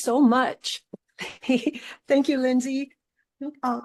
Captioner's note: laughs